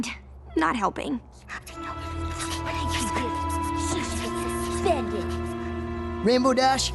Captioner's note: accusing whispers